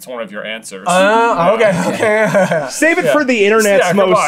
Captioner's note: laughter